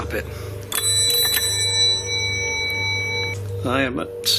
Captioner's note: bell ringing